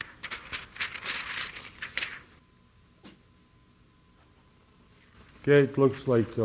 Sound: paper shuffling noise

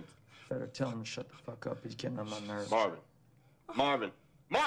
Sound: muttering

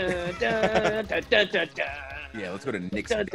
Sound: laugh

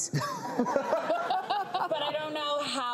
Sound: laughter

